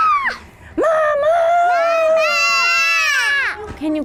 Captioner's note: children shouting; all Shouting